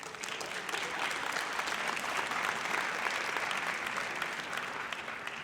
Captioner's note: audience applauds